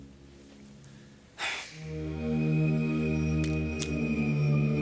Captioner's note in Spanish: Graham suspira